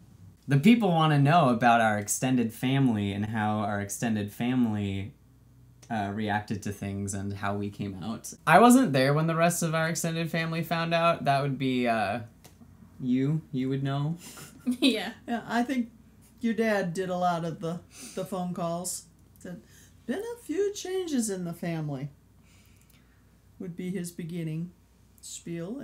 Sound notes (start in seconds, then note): 14.4 laughs